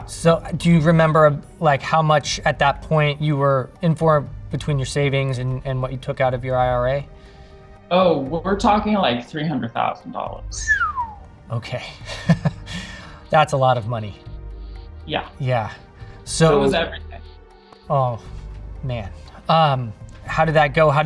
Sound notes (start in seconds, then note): 10.4 whistling; 11.7 laughing